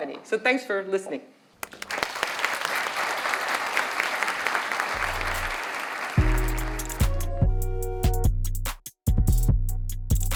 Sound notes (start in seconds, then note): 1.6 audience applauds; 6.2 gentle electronic music